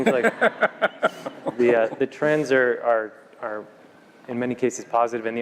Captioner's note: laugh